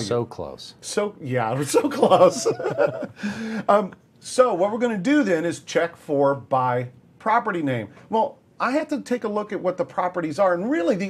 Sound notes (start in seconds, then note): 1.6 laughter